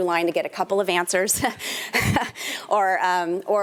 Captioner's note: chuckles